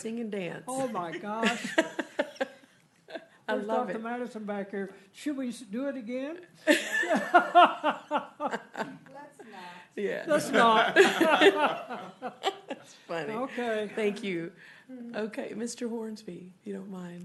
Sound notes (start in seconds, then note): 8.2 laughter; 12.2 laughter